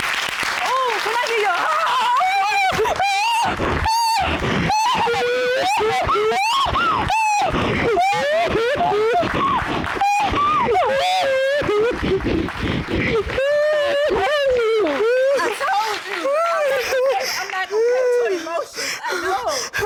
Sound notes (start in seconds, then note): 2.6 both crying